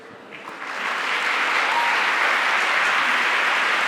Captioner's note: audience applauds